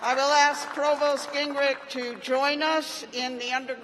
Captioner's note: cheers and applause